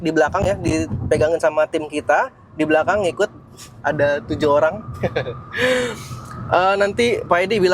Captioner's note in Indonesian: tertawa